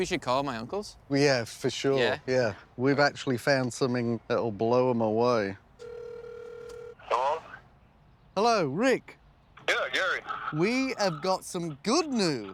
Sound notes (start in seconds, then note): 5.8 phone ringing; 6.5 on phone; 8.7 on phone